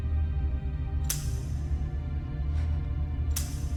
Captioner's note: gun snaps